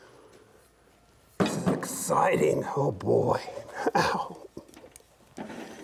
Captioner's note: laughs